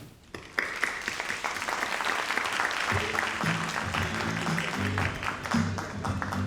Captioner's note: all applauding